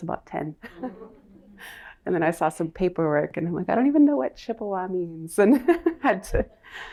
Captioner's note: laughter; laughter